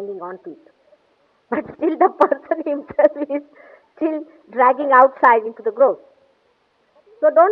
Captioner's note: laughing